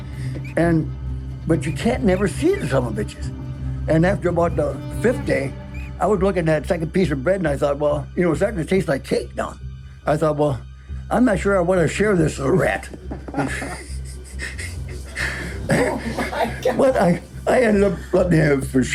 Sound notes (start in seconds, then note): 0.6 squeaking; 15.8 laughing; 16.8 everyone chuckling